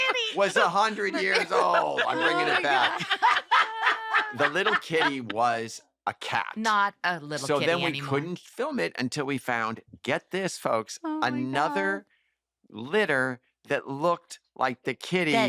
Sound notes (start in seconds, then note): 3.0 laughter